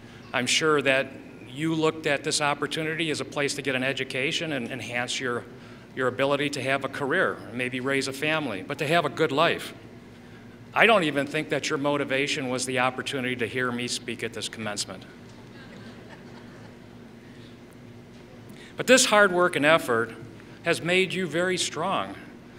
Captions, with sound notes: I'm sure that you looked at this opportunity as a place to get an education, and enhance your ability to have a career. And maybe raise a family. But have a good life. I don't even think that your motivation was the opportunity to hear me speak at this commencement. [Laughter] But this hard work and effort has made you very strong.